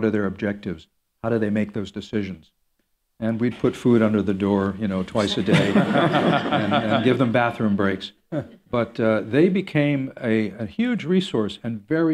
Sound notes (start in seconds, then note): 5.2 laughter